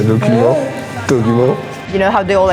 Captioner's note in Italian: accento tedesco